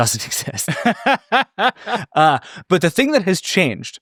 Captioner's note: both laughing